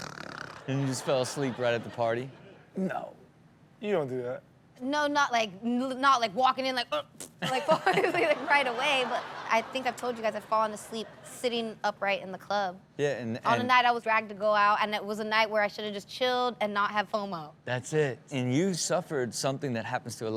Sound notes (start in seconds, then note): 0.1 Rob snores; 7.0 vocalizes; 7.5 audience laughs